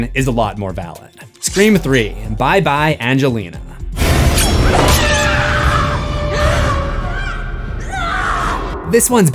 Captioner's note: screams